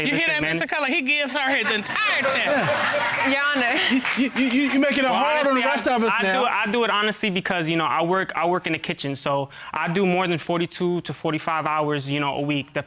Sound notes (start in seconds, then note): 2.9 audience laughing; 4.3 stutters